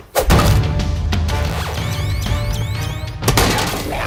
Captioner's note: counter crackling and beeping; robotic voice